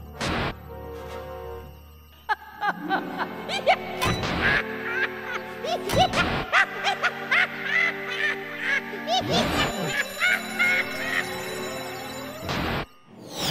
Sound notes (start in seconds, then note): 2.0 evil chuckles; 5.0 maniacal laughter; 9.8 alarm rings